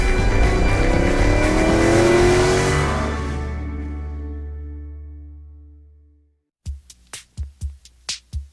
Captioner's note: engine revs